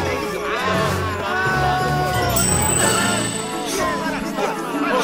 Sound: cheering

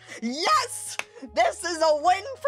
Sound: victory clap

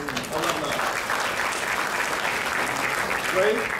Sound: crowd clapping

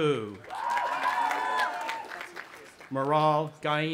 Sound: cheering; audience applauding and cheering

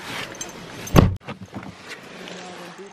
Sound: keys jingle; door being closed; door being opened and keys jingle

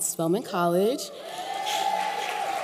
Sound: applause

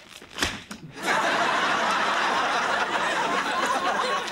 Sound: audience laughing

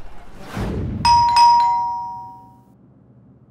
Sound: doorbell ringing

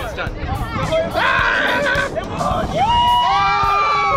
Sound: shrieks

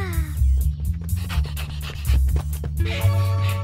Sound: panting

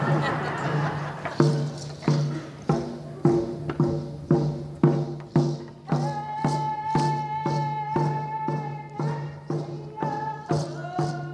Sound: laughter; drumming; singing

